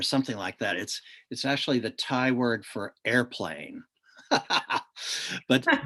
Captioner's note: laughs